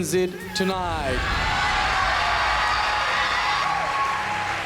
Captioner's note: crowd cheers